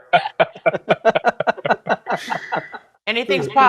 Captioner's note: laughter